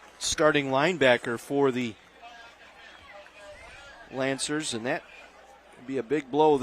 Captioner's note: applause